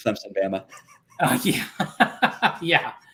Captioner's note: laughter